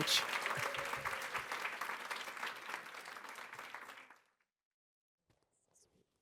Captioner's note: cheering and applause